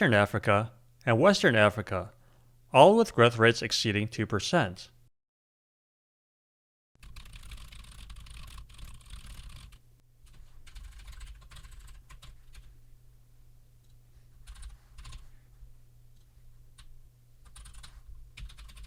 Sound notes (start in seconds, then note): 8.3 typing sounds